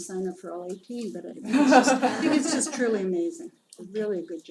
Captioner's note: laugh